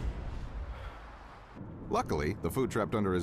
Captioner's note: sighing